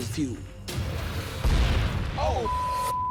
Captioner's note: explosion